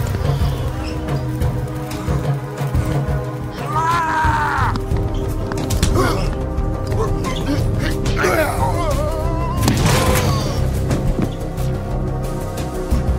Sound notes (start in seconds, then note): 0.1 tense music continues; 3.5 man screaming; 6.8 men grunting